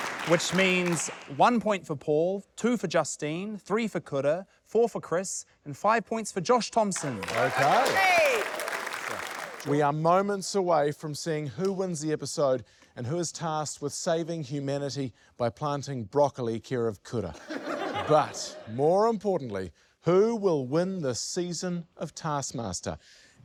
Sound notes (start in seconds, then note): 6.9 applause; 17.3 laughter